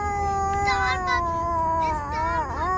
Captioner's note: baby sounds